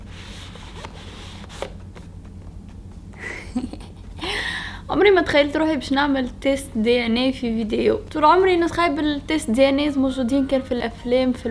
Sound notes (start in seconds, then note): 3.2 giggle